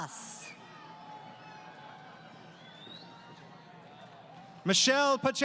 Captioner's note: crowd Cheering